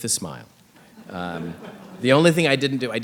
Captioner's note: audience laughing